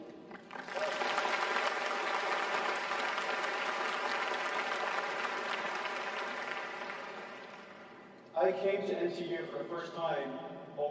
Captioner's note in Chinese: 掌聲